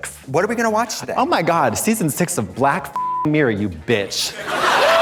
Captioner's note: beep; audience laughs